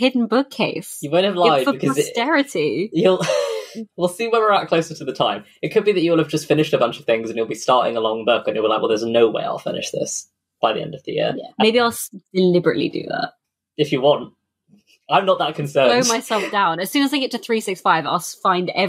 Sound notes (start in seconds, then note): 1.2 laughs; 15.2 laughing